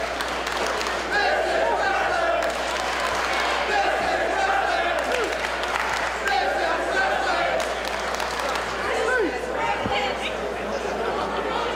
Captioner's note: applause